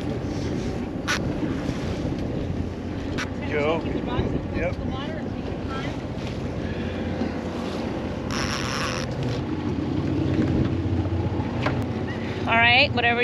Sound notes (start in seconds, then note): 5.8 reel cranking; 9.5 boat engine idling